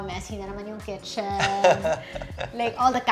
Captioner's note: laughs